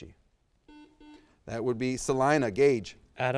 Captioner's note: buzz